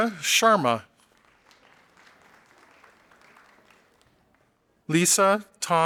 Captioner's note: audience applauding